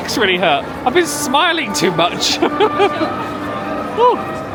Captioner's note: laughing